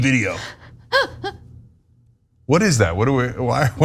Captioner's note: laugh